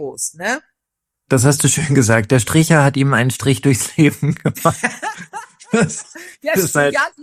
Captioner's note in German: gelächter